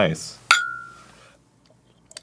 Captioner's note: good mug clink